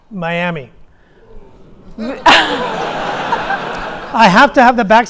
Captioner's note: audience laughing